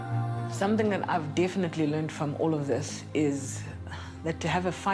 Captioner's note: sighs